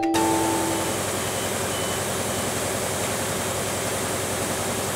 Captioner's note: machines whirling